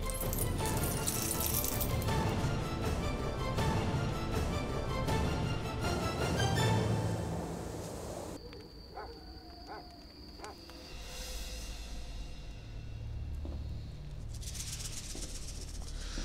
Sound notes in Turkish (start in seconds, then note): 8.9 Köpek havlama sesi; 11.0 Müzik - Gerilim